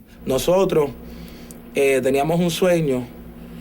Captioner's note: none